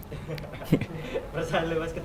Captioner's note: giggling